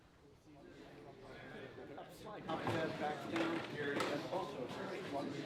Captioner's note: background chatter